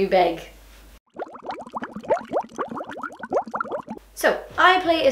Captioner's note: water bubbling